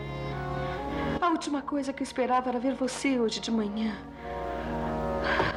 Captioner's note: Knocking